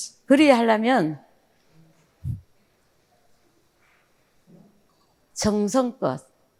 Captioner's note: speaking in foreign language